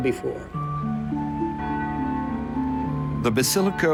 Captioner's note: bells chime